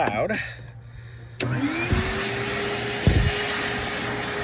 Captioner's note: machine ROARS